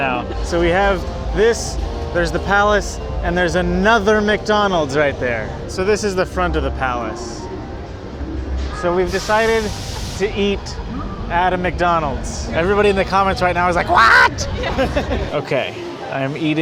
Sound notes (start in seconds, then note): 13.6 in a high-pitched voice; 13.9 laugh